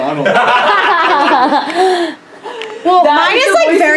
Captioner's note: laughs